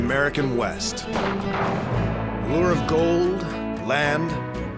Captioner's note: gunshot